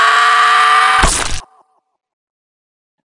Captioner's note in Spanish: Splat